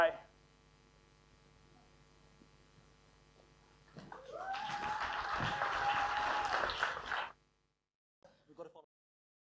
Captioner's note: applause